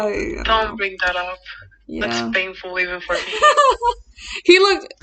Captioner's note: laughs